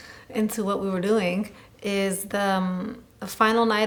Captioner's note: none